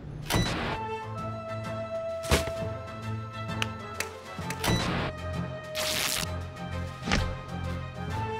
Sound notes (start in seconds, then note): 5.7 ripping